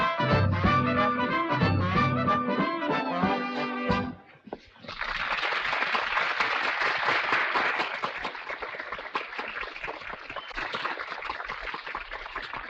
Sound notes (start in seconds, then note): 4.8 audience applauding